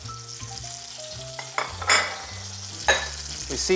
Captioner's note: sizzling sound